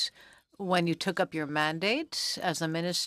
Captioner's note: speaking French